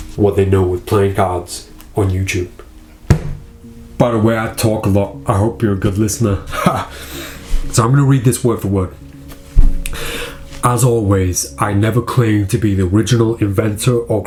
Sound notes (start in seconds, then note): 6.4 laughs